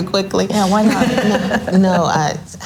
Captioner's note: laughs loudly